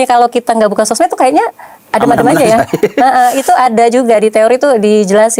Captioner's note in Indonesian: tertawa